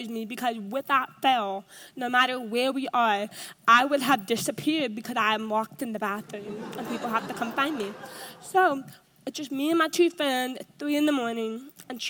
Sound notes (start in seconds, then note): 6.3 audience laughs